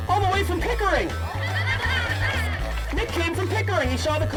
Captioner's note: audience laughing